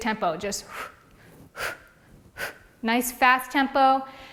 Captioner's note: exhales loudly